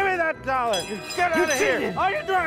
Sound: bell rings

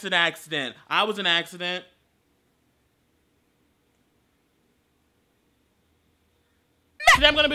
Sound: awkward silence and instant regret

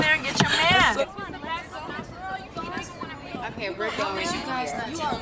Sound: girls chattering

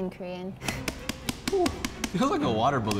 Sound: tapping

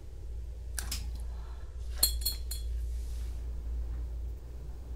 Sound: light switch clicks; light bulb clicks again

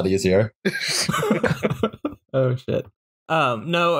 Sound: laughter

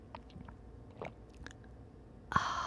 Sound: gentle swallowing

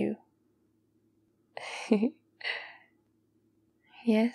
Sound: laughs

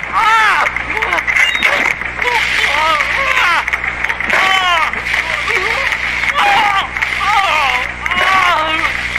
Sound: squirting; spraying; moaning

